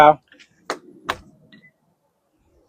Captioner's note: door Shuts